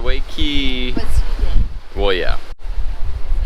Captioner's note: mummers